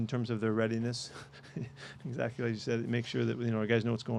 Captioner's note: chuckles